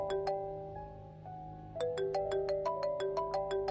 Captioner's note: phone ringing